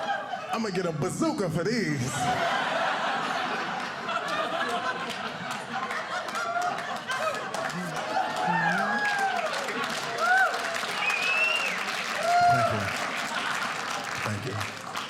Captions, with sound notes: I'm going to get a bazooka for these. (audience cheering)